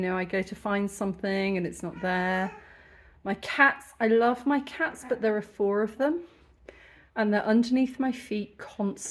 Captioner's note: cat meows